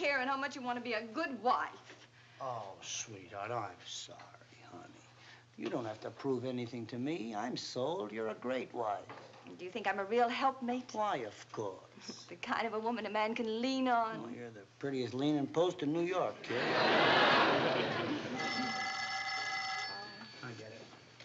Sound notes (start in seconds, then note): 18.2 phone ringing